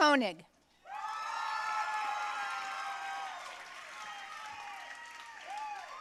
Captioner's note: audience cheering and applauding